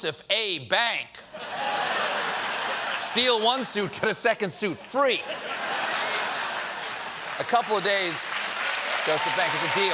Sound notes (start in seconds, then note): 1.3 laughter; 3.4 applause; 3.4 laughter